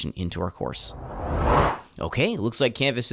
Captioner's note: swooshing Sound Effect